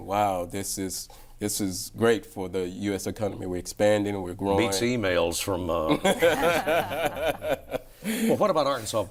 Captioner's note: laughter